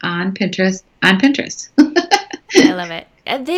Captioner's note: laughing